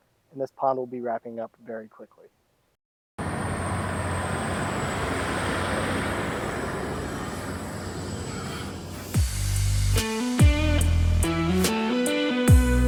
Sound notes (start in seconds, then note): 3.2 machine engine whirs softly